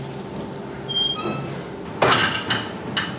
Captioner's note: squeaking